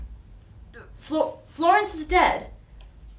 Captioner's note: stammers